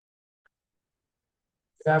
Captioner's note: silence